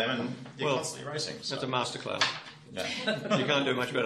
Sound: laughter

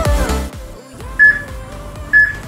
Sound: peep

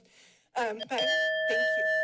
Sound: timer dings

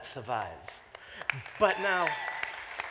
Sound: applause

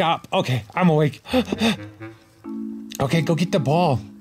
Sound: mumbling; heavy breathing

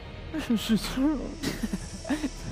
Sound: sarcastic

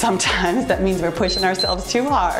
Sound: timer beeps

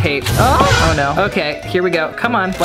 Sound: pathetic moan

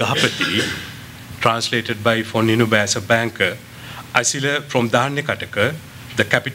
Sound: non-english; non-english

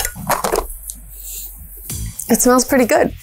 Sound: knife scraping; lid popping

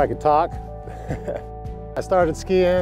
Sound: ha Ha

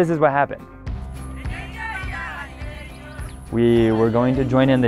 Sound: people chanting

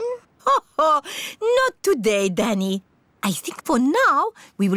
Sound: laughs

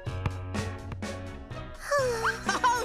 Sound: sighs

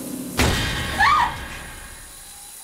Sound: screams

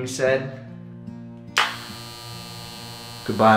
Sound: razor buzzes

